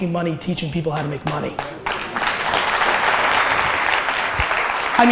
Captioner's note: audience applause